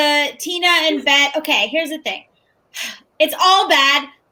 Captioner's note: sighs